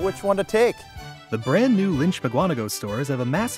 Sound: voiceover

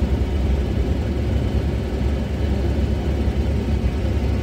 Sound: helicopter engine noise

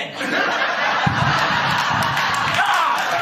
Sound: laughter & applause; fireworks explosions; laughter & applause

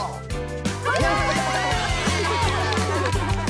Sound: cheers & Laughter

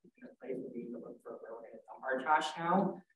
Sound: speaks faintly

